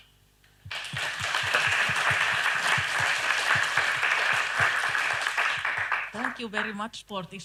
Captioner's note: applause